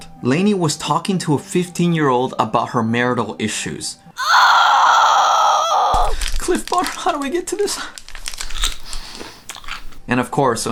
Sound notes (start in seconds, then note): 4.2 scream fx sound